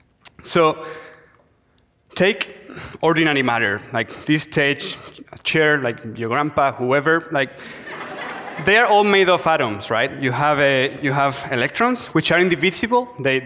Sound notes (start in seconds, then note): 7.6 audience laughs